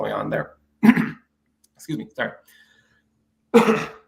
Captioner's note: coughs; clears throat